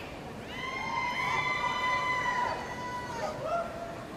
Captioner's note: audience cheering